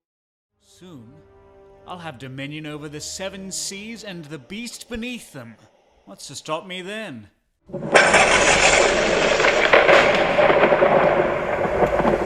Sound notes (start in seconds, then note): 7.7 thunder